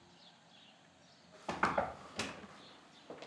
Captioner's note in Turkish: Kapı Tıklatılıyor